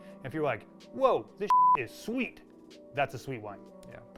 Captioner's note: beep